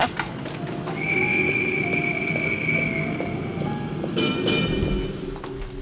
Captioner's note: sounds of cars and trolley car; Grim laughs